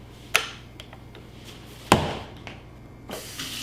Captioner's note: switch clicking; bag thudding